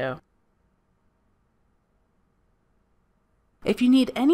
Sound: silence

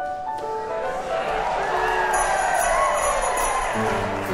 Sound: crowd cheering

